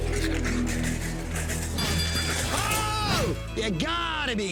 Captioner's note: bell dings